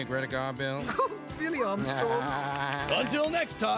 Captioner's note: Armstrong and Margaret laughing